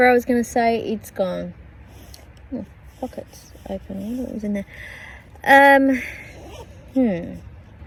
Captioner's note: zipper sound